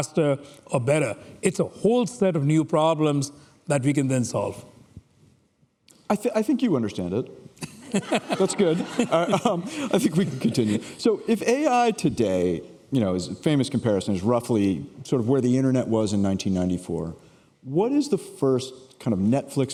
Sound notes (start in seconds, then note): 7.7 laughing